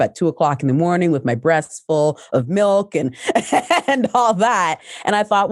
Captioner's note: laughs